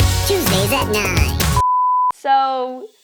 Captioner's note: TV beeping